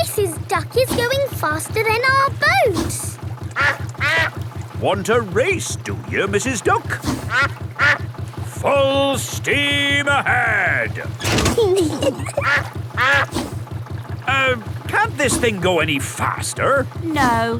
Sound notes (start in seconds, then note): 3.4 quacks; 7.5 quacks; 11.1 level clangs; 11.6 kids giggling; 12.0 quacks